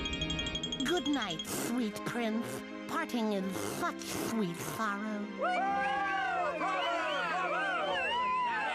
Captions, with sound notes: GOOD NIGHT, SWEET PRINCE. "...PARTING IS SUCH SWEET SORROW" [audience cheering]